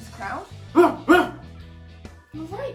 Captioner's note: suggestive barks